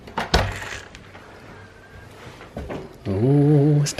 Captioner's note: latch clicks